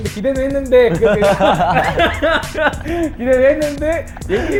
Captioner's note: laughing out of embarrassment